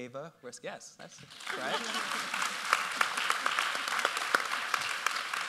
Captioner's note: audience applauds